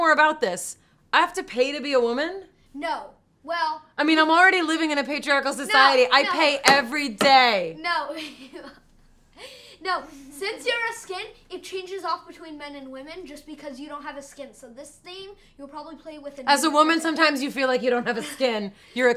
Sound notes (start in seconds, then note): 7.9 laughs